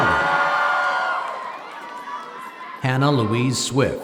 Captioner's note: applause